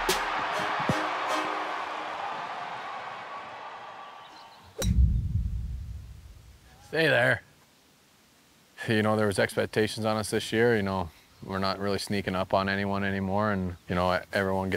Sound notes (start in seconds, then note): 0.0 crowd cheering; 5.0 ball whips